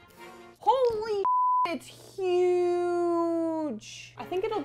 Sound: beep

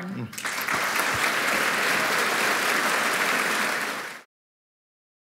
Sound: applause

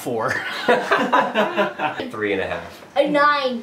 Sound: laughter

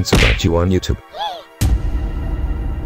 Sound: gasps

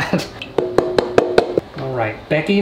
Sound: hollow tapping

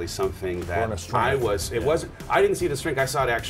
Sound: murmurs

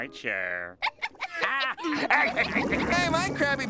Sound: laughing

